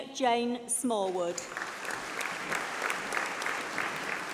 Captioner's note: applause